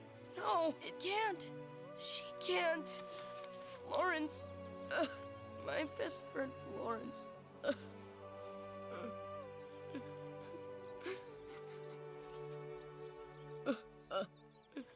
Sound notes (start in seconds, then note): 7.5 sobs